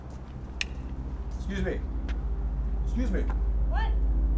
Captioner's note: knife clicks